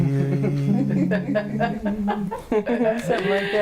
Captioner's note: laughing